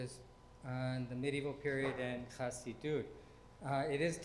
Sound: speaking foreign language

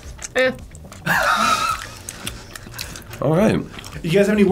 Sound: laughs

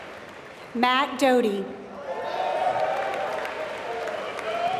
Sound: applause

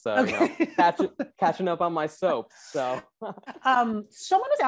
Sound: laughs

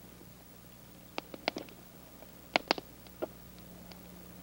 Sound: fire crackling

